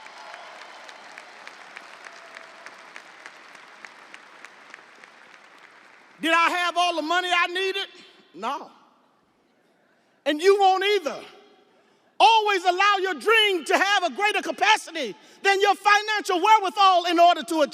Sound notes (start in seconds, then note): 4.3 audience applauding; 4.3 audience cheering